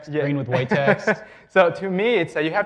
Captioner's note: laughs